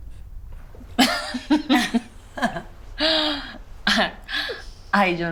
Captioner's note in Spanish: Risas